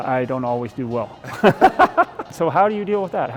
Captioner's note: both laugh